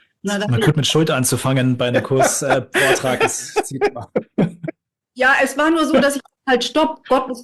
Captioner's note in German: gelächter